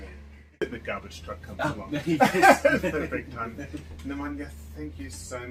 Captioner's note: laughs